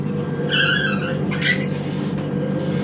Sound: screeching door

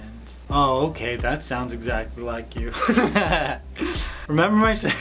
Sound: laughs

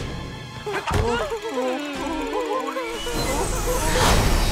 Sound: whimpering

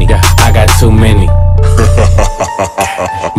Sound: hah

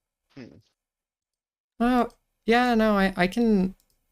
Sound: none

